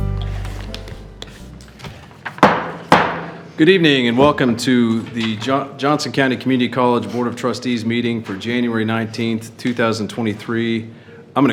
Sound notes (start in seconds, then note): 2.4 gavel banging